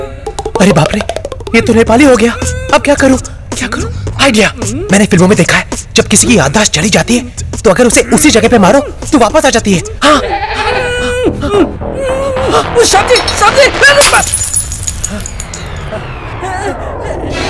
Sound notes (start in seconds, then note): 11.6 Moaning; 13.2 Vase breaking